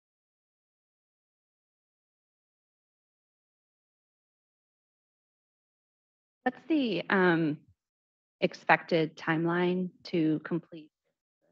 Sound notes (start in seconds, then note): 1.0 silence